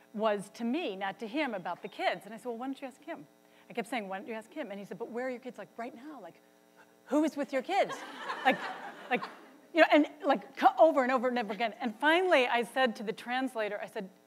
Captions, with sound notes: was to me, not to him, about the kids. And I said, "Well, why don't you ask him?" I kept saying, "Why don't you ask him?" And he said, "But where are your kids, like, right now? "Like, who is with your kids?" (audience laughs) Like, over and over and over again, and finally, I said to the translator, I said,